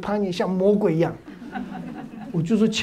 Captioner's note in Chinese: 哈哈哈